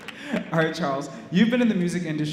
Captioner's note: laugh